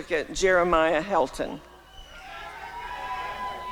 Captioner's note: applause and cheering